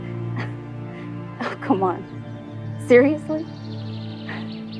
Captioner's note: scoffs